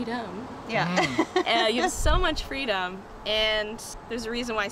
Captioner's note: chuckle